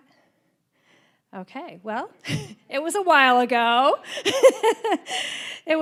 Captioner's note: laughing